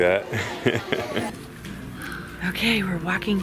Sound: laughs

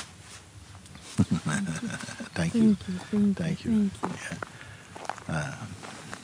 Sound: laughs

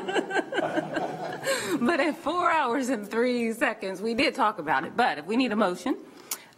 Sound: laughter

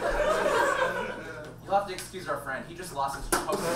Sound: audience laughs

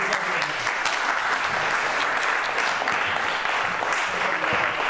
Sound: applause

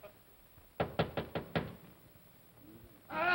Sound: knocking on door

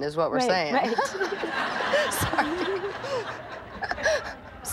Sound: laughter

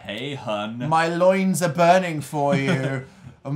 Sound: laughs

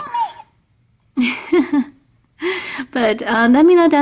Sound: laughs

